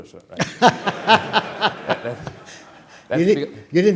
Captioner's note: laughter